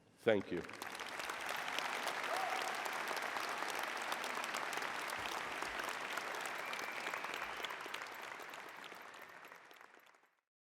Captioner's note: applause